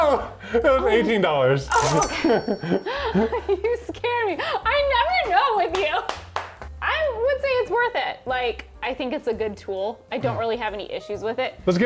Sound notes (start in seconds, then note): 2.0 laugh; 5.2 clapping hand